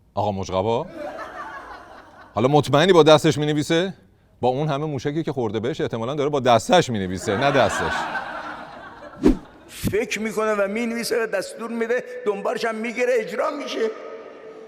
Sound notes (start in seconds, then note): 0.9 laughter; 7.2 laughter